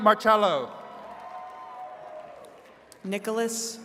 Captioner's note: attendees cheering